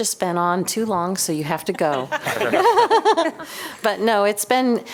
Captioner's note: laughter